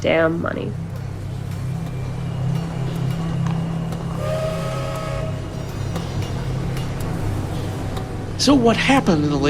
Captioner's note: soundbite of train whistling